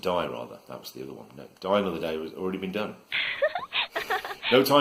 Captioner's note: sound of laughter